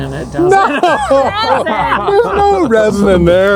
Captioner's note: laughs